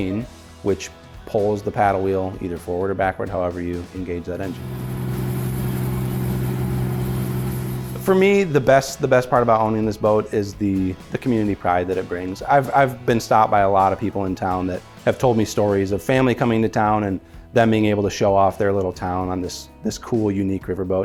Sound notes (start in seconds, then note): 4.5 engine rumbling; 4.6 water splashing